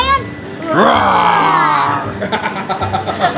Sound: both roar

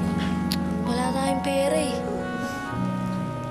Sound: clicks tongue

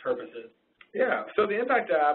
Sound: voiceover

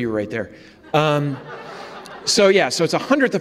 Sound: audience laughs

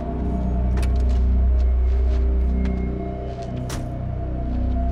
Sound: door clicks; door thuds

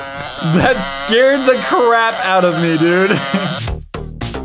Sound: fart noises come to an end; sexy music playing

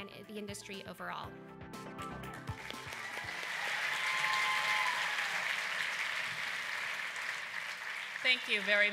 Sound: applause

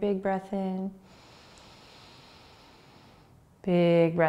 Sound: inhaling

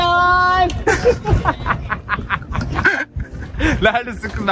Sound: laughter

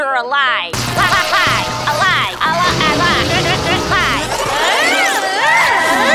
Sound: glitching and sparking while saying "alive"; wheels screeching

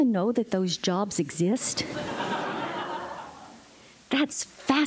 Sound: laughter

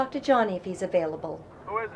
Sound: voiceover

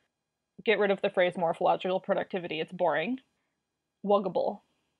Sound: none

